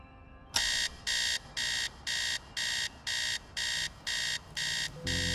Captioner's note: alarm clock beeps